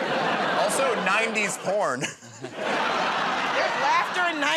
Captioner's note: chuckles